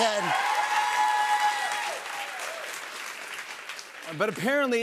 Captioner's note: cheers and applause